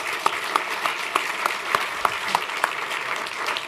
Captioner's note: applause